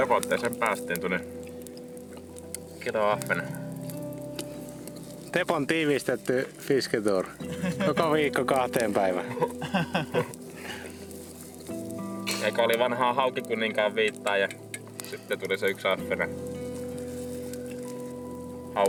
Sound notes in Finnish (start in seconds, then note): 9.2 naurua